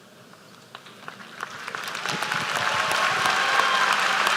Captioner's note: applause